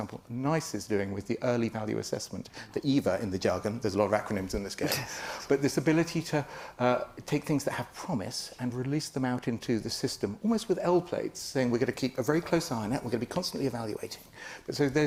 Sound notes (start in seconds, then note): 5.5 panellist laughs